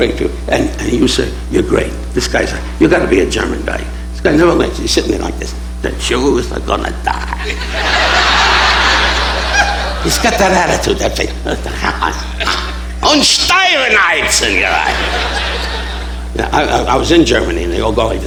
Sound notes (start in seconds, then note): 7.1 audience laughing; 11.3 Don speaking foreign language